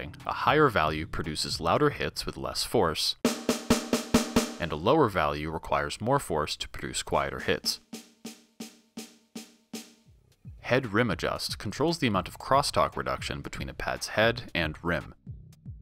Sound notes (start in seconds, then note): 3.2 rim playing loudly while being hit lightly; 7.8 rim playing quietly while being hit hard